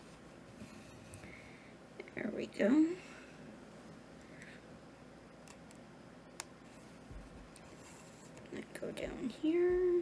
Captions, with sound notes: There we go. [silence] I'll go down here.